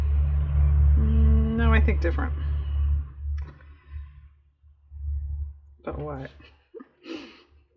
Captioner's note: laughs